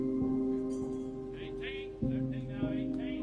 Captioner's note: metal clanging